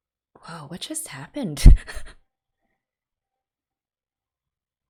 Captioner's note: bewildered laugh